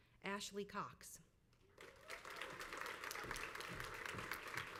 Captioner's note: crowd applauds